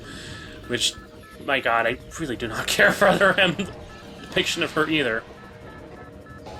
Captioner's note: chuckles